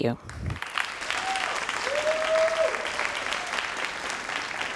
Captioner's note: crowd applauding